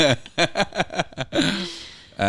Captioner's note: laughing